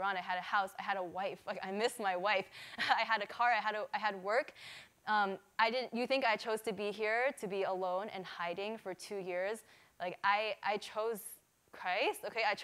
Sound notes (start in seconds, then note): none